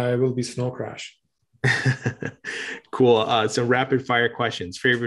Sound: laughs

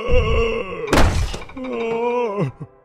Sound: discouraged groan

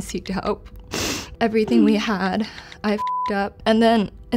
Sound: beep

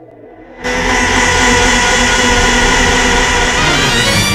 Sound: Poohjora demonic yell

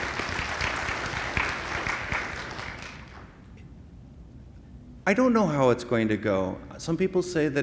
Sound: applause

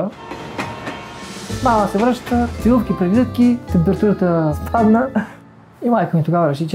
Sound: laughs

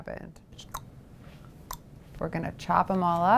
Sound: tongue clicking

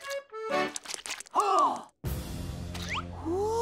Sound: gasping

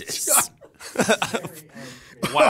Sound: laughs

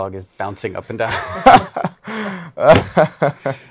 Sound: laughs

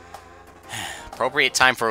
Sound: sigh

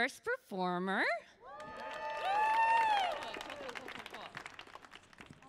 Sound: audience cheers and claps

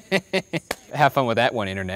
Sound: knee slap

